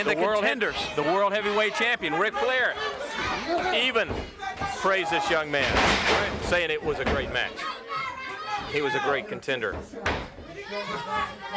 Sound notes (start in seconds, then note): 4.0 body thudding